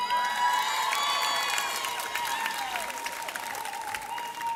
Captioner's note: audience cheers